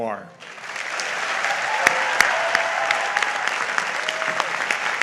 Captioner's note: audience applauds